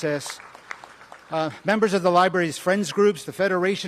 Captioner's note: applause